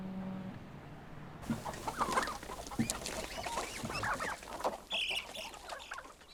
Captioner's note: clucking